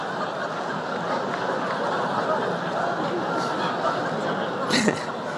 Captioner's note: laughter